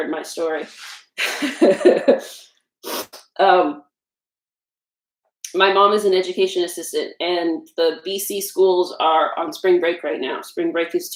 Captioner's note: laugh